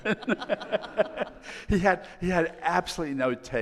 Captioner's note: all laughing